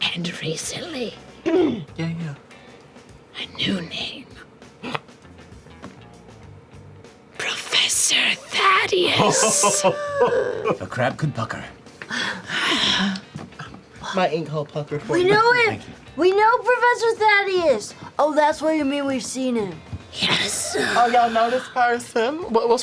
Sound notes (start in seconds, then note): 9.0 laughs; 9.6 gasps